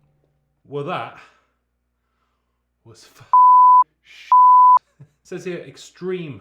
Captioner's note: beep